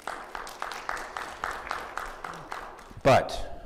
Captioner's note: audience applauding